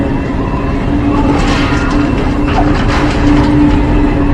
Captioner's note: metal clanging